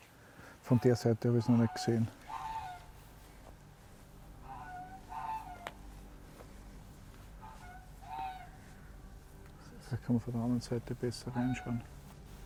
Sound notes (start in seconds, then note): 4.2 frogs and geese noises in the background